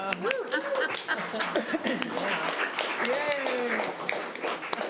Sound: audience cheering

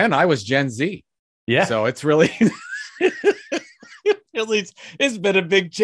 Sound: laughs

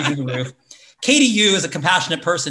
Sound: laughs

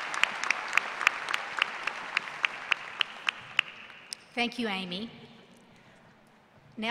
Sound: applause

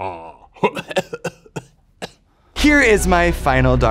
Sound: cackling loudly; coughing

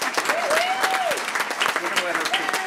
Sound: applause; cheering

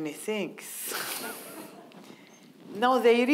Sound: audience laughing

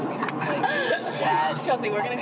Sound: laughing

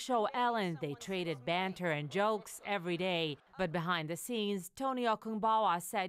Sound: laughter

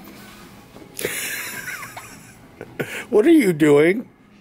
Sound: laughing

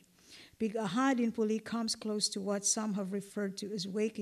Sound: non-english

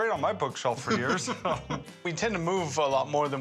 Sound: laughing

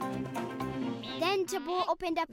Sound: bleating

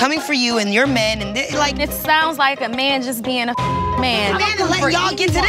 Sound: beep

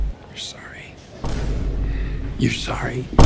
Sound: quietly

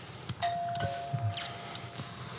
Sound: doorbell

